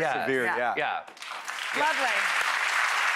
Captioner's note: clapping